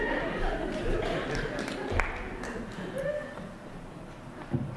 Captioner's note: laughter